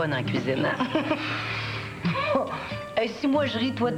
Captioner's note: Rires